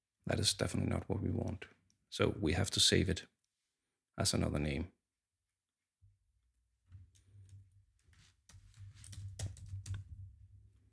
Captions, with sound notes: That is definitely not what we want. So we have to save it as another name. (typing)